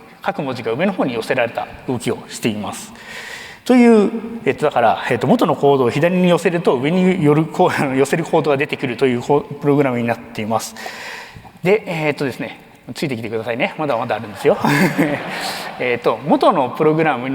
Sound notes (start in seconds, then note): 13.8 laughs; 14.0 laughter